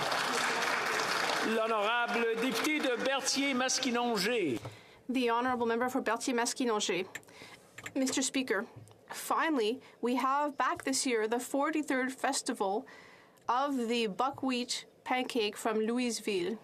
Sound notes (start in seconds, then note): 4.0 some Applause